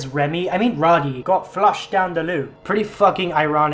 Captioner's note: horrible bri'ish accent